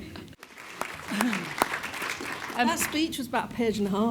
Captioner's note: audience applauding